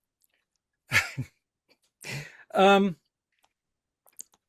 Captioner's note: laughs